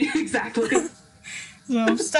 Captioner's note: laughs